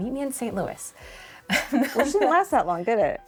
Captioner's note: laughs